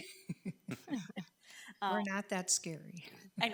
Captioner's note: people laughing